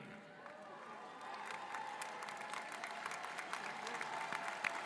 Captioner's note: audience cheering